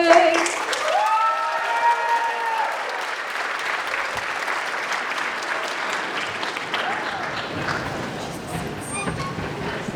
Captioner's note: applause